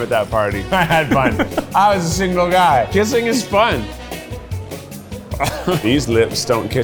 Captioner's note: chuckles